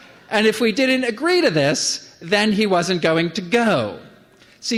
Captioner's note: none